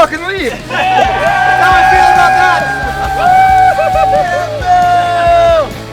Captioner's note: cheering